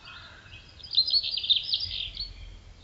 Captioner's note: birdsong